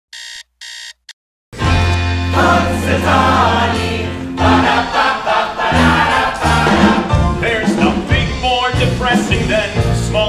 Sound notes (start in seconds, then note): 0.1 alarm beeping